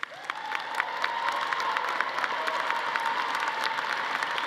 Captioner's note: audience applauding